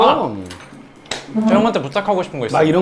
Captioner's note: slap